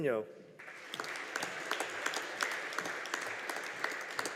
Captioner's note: audience applauding